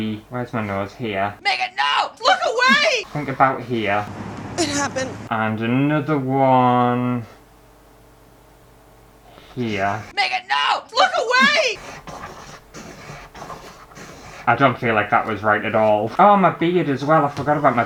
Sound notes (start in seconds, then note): 11.7 pen Scraping On Canvas